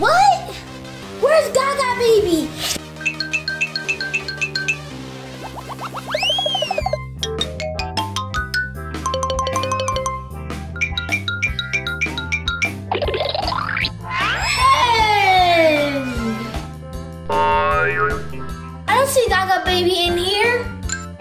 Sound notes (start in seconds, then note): 3.0 xylophone plinking; 6.1 siren whistle blowing; 7.5 xylophone plinking; 21.0 xylophone plinking